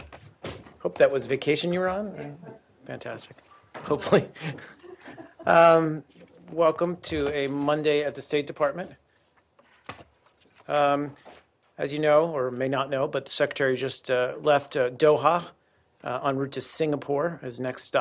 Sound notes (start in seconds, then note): 6.9 laughter